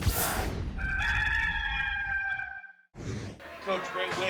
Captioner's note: logo whooshing; rooster crowing